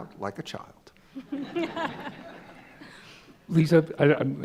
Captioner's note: laughter